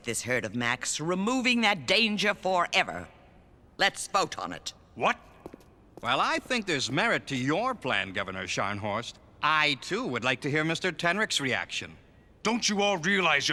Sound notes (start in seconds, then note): none